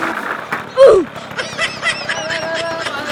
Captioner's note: laughing